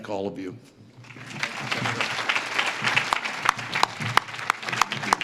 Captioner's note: audience claps